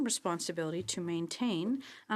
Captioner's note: speaking in French